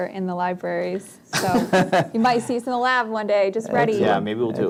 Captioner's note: laughs